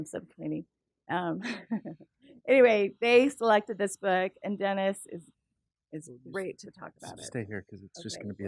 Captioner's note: laugh